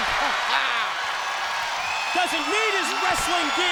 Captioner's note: crowd cheers